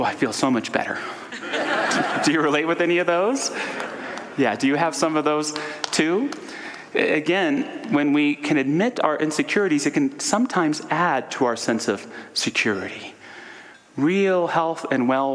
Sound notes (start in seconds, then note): 1.3 audience laughter